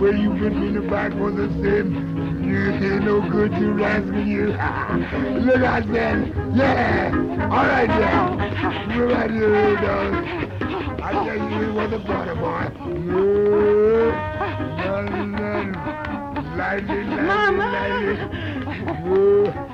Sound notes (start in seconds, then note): 5.0 Louis laughs; 11.4 both panting